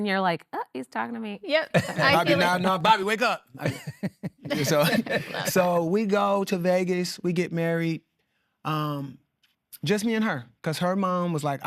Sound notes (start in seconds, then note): 3.5 laughing